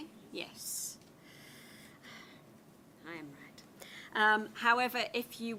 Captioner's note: sighs